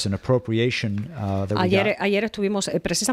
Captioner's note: Hablando ingl\s